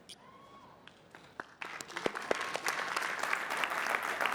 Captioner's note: applause